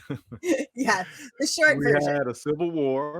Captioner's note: both chuckle